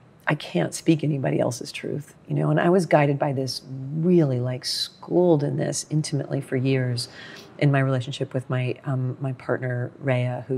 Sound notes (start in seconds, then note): none